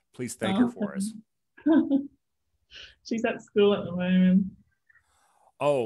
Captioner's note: chuckles